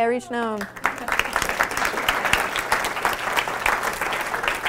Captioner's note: audience applause